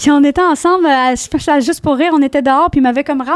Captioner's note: in french